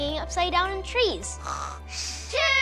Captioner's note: snores